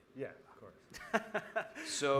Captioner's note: laughing